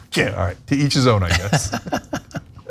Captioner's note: laugh